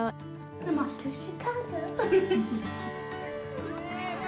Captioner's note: woman giggles; all cheer